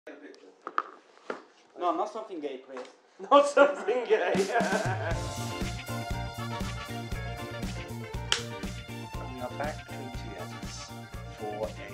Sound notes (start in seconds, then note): 3.3 laughing; 4.3 disco music